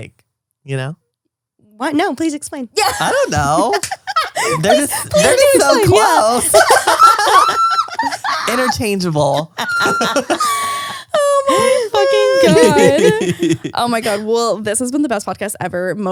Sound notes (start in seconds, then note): 6.8 all laughing